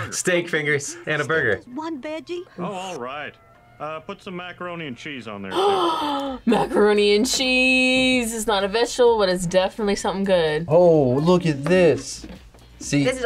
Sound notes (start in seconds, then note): 5.5 gasps